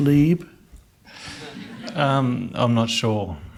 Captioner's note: laughing